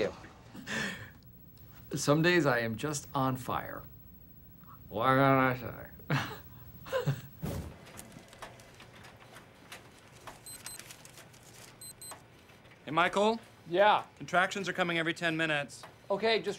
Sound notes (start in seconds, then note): 6.0 chuckles; 9.4 watch beeps